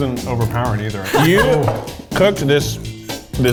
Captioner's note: laughing